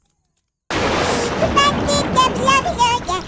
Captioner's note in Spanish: lenguaje desconocido